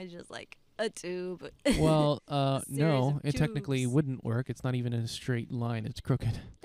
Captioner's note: laughing